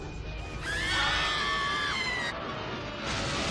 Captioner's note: screaming